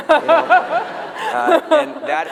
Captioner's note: laughter